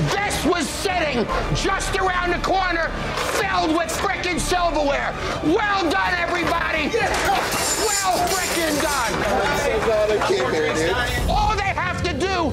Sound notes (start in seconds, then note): 0.0 silverware clattering; 6.3 silverware clattering